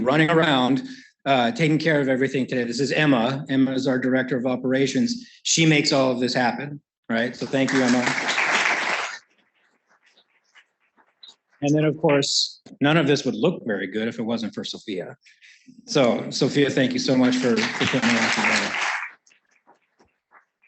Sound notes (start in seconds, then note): 10.2 applause; 17.0 applause